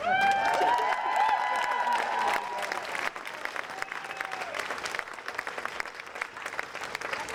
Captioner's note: audience applauding